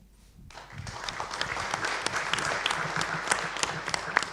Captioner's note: applause